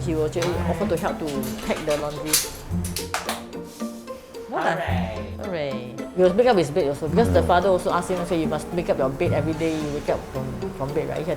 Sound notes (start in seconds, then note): 2.9 claps